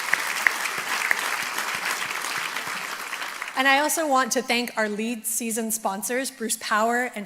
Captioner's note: applause